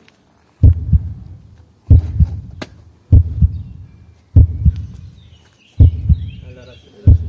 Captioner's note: heartbeats